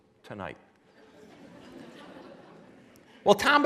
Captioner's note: laughing